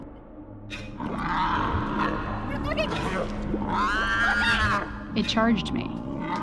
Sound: creature squealing

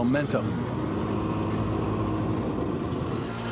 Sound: engine revving

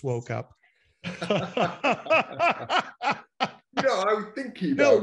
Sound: laughing loudly

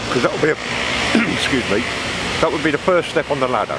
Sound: clearing throat

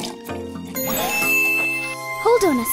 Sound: chiming

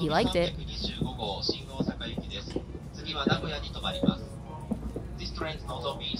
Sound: announcer speaking in Japanese

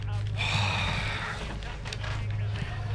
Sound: sighs

